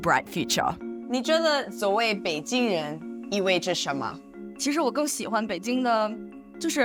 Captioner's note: speaking foreign language